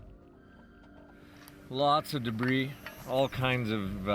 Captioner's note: voiceover